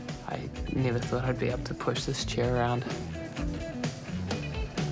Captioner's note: none